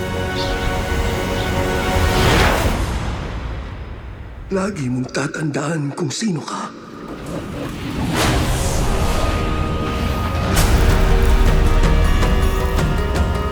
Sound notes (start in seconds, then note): 6.8 wind gusting; 10.6 suspenseful music playing